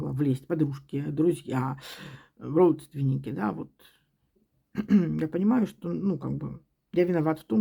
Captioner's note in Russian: откашливается